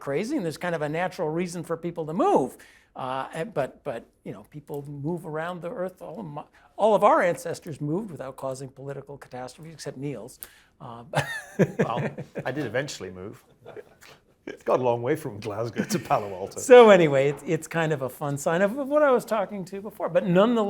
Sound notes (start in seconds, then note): 11.2 laugh